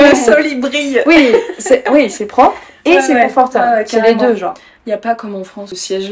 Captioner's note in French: rires